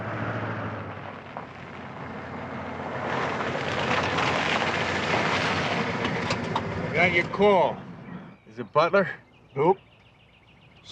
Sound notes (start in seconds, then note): none